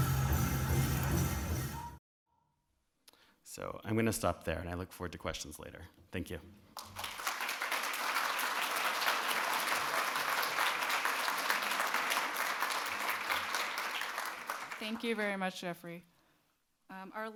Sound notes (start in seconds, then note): 6.7 audience claps